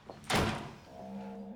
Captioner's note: door slamming